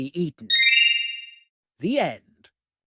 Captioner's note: twinkle